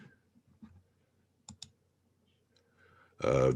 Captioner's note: mouse clicking